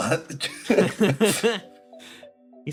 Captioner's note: laughs